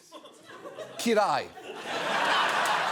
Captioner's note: speaking hungarian; audience laughing